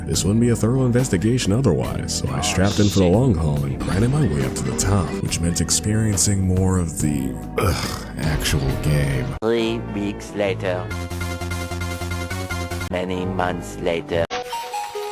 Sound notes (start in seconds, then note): 10.5 ugh